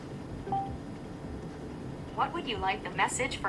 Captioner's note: phone beeps